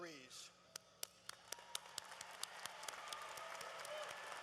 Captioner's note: applause